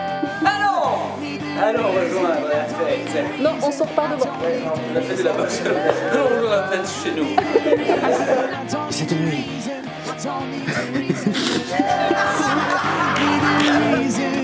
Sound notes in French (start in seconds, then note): 7.4 Rires